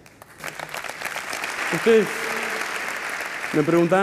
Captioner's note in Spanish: Aplausos